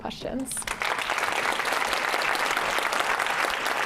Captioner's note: applause